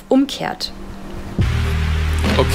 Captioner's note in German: Dröhnen